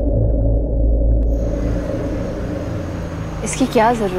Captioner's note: Car approaching